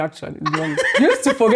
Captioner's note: laughs